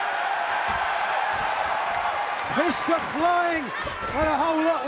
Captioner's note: crowd cheering